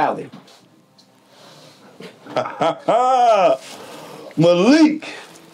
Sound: laughs

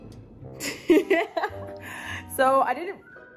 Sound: laughs

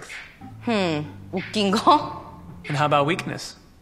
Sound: speaking foreign language

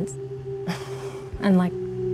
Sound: sighs

